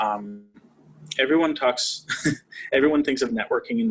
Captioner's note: laughing